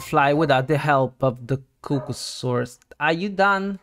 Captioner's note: bark